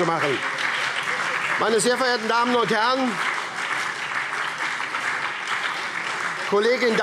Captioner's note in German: Beifall SPD, CDU und BÜNDNIS 90/DIE GRÜNEN - Zurufe AfD